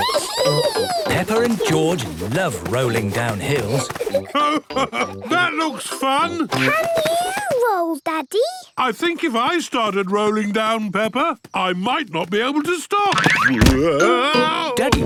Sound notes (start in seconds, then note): 5.3 laughing; 8.8 giggling